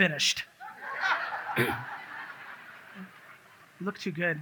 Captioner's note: audience laughs